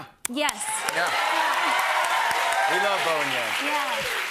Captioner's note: cheers and applause